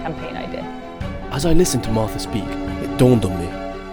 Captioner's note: voiceover